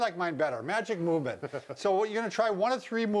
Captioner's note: laughs